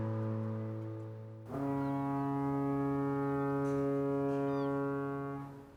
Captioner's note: ship horn blows